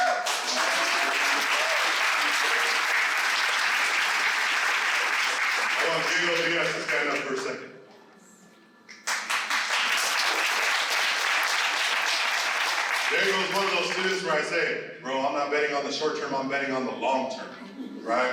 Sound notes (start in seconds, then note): 0.0 applause; 8.9 applause